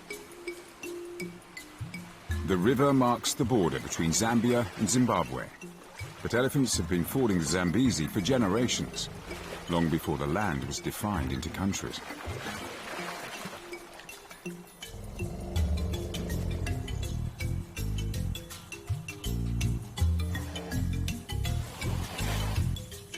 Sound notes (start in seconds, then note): 6.2 upbeat music; 7.6 elephants grunting